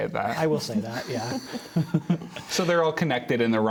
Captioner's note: laughter